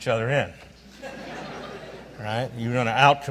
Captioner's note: audience laughs